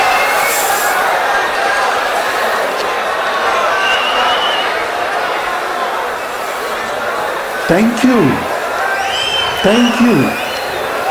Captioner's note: wild applause and cheering for 22 seconds